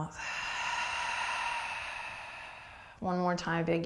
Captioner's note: exhaling breath